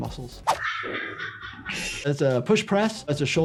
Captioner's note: bystander laughs